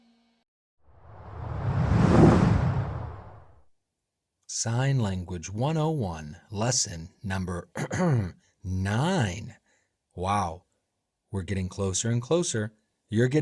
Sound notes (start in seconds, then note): 1.0 air swooshing